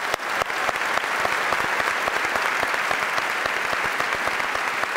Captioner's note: audience applauds